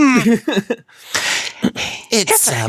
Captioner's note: sigh